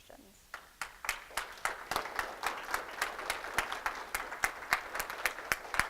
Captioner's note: applause